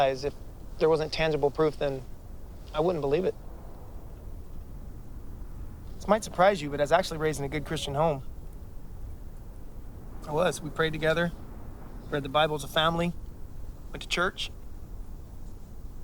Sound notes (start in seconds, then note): none